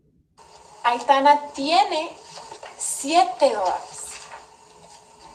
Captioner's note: teacher speaking Spanish